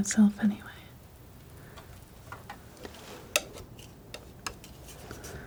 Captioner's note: tapping